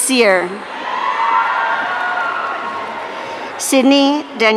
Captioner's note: audience cheering